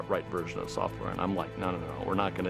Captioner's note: none